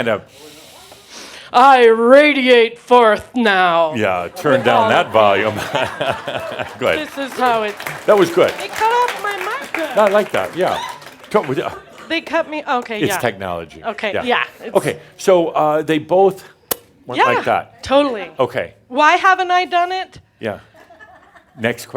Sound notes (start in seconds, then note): 5.4 audience applause